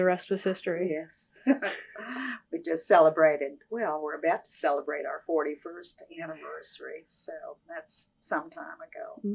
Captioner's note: laughs